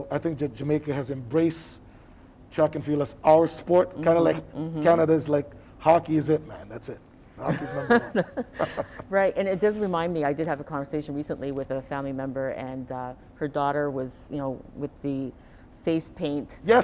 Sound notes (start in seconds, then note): 7.4 Donovan chuckling; 7.4 chuckling